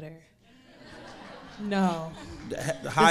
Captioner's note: audience laughing